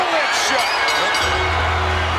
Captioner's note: audience cheers; bell rings; ominous music